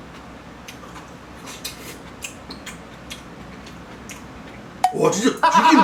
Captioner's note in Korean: 쿰척쿰척